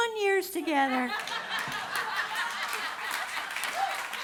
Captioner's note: audience laughter and applause